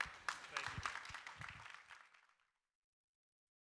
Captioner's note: applause